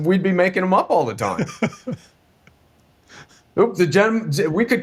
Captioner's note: laughing